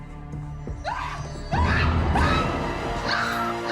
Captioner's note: Mrs. Hoffman screams; suspenseful orchestral music